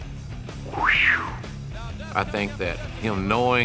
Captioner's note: exhales